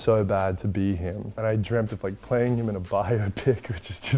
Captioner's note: chuckles